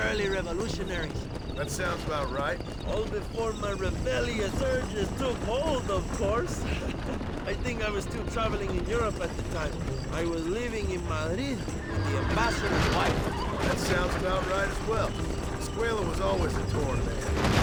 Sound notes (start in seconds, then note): 6.5 laugh